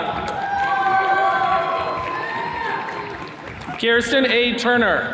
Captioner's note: attendees cheering